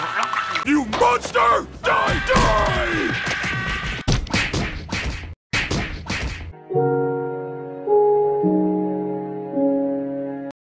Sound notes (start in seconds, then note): 4.1 punching; 6.5 music